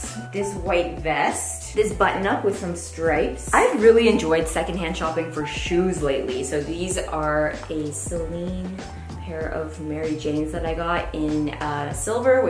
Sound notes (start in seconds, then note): none